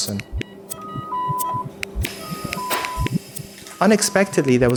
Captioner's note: medical machinery beeping